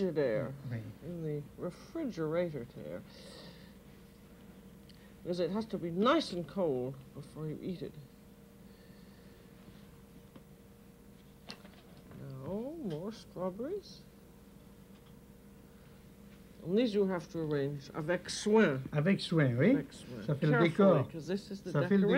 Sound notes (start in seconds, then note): 17.5 speaking French; 18.4 both conversing in French